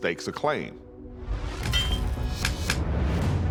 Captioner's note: tools clanging